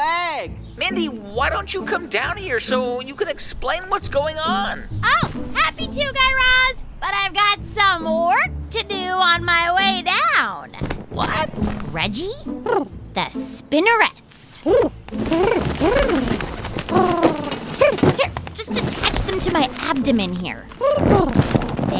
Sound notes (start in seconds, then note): 16.8 soundbite of rustling